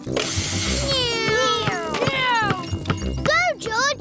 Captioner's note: whirring